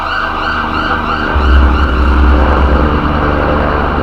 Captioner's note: approaching helicopter